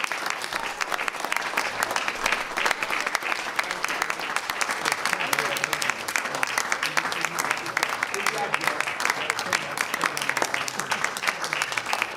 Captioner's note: applause